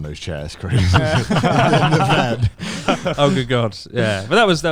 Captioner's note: laughs quietly